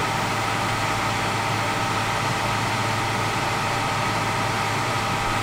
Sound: machinery whirring

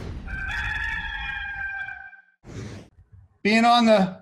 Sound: cockcrow

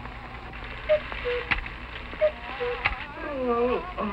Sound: cuckoo clock sounding; yawning

